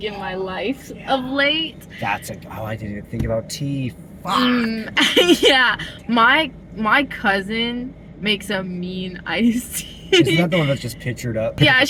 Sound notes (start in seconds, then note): 4.9 laughing